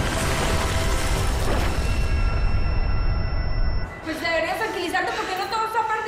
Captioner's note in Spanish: Estruendo